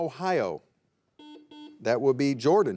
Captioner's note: buzzer buzzing